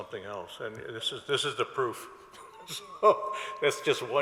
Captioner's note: laughs